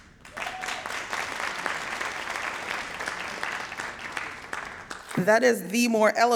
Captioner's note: audience cheering and applauding